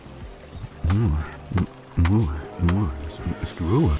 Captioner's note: kiss